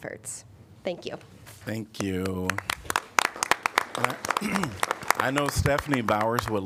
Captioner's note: applause